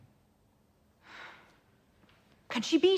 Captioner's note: sighs